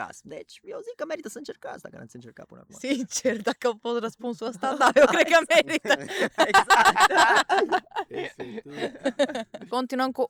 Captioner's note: everyone laughs